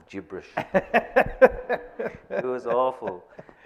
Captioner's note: laughing